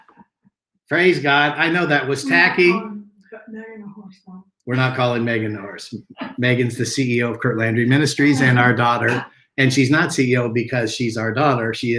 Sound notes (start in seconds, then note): 3.1 lady speaking faintly